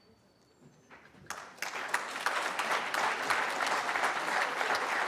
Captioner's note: applause